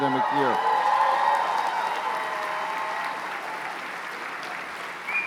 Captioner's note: cheers and applause